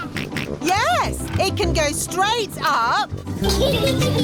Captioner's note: snorts